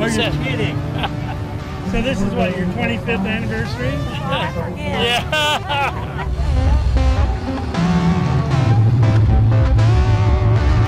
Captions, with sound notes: Oh, you’re kidding. So this is what, your 25th anniversary? Yeah. [laughing]